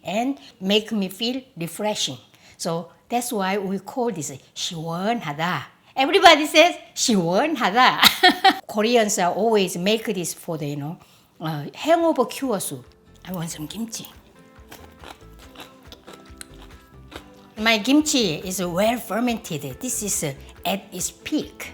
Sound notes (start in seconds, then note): 8.0 laughs